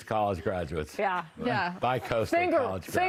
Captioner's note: laughter